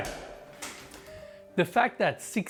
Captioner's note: door latch clicking